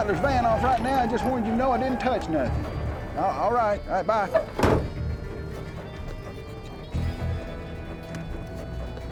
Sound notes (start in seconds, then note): 4.3 truck door closes